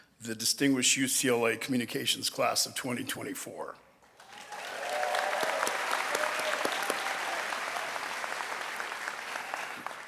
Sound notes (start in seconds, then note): 4.1 audience applauding and cheering